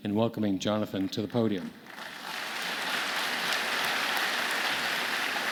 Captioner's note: audience clapping